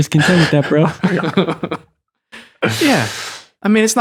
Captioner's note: laughter